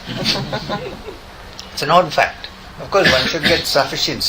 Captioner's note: laughter in the audience